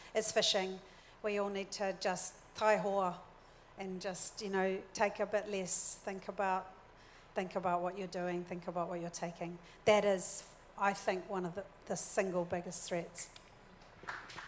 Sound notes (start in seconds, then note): 2.8 speaks in foreign language